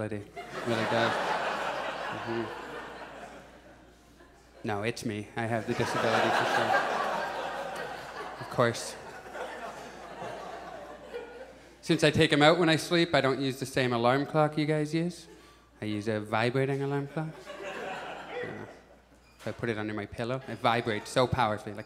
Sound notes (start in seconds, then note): 0.3 audience laughs; 9.5 audience chuckles; 17.1 audience chuckles